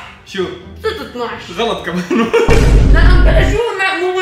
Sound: laughing

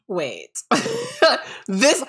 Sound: laughing

